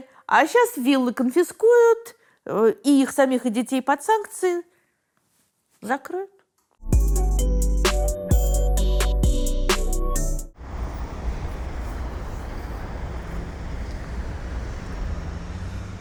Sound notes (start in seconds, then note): 6.8 title theme; 10.5 street noise